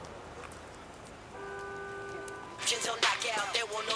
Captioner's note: horns honking